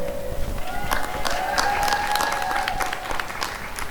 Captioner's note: applause and cheering